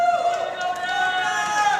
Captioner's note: applause